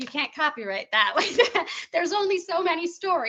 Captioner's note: laughing